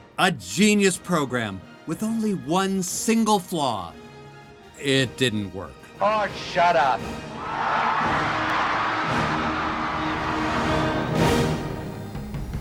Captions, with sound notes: a geniu program, with only one single flaw: It didn't work. -Oh, shut up! [ Suspenseful chord strikes ] [ Cheering and applause ]